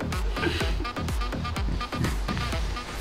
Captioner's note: extremely angry, laughing